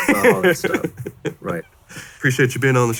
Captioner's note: laughing